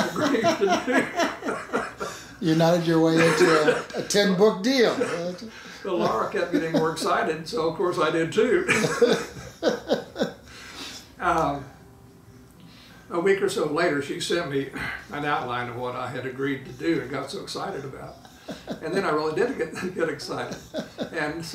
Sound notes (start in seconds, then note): 0.1 laughing; 4.8 laughing; 8.6 laughing